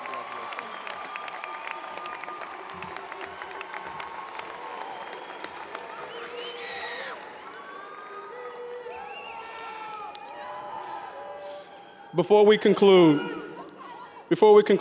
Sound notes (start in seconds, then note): 1.4 audience cheers and applause